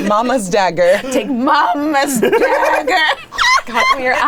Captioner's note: people laughing